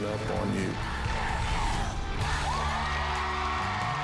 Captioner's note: crowd chanting "dr. phil!"; cheers and applause